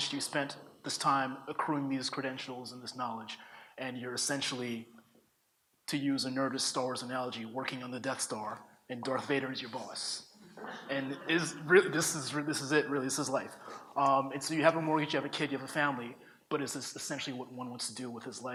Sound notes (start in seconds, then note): 10.5 audience laughs